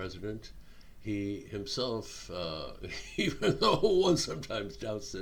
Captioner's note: chuckling